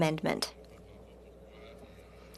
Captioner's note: speaking French